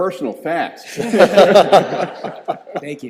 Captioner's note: all laughing